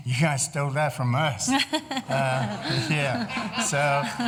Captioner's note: laughter